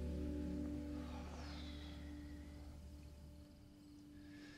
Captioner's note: Mitch sighs